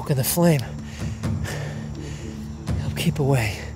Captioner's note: breathing heavily